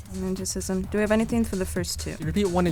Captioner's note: wispering